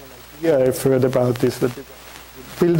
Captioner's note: audio static